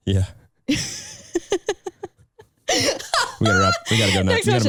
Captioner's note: laughing